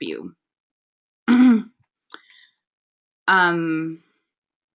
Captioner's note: clears throat